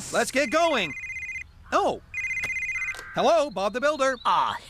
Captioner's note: cell Phone Rings